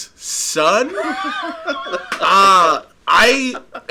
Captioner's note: laughing